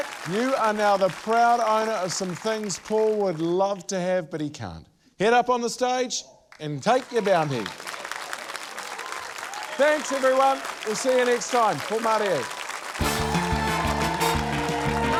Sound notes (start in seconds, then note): 8.1 cheering, applause